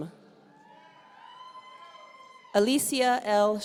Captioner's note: audience cheering